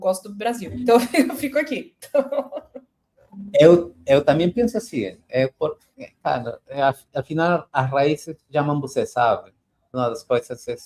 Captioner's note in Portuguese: risadas